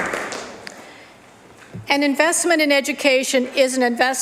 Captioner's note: applause